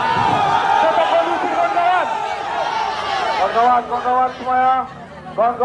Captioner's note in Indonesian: bersorak